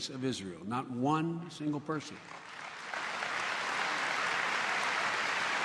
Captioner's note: applause